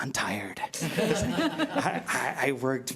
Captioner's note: laughing